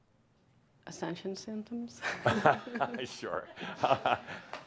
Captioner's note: Adamus chuckles